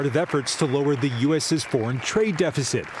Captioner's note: applause